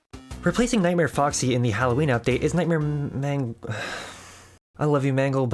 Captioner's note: sigh